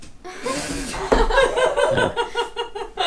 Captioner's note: laughs